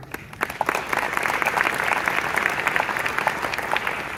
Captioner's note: audience claps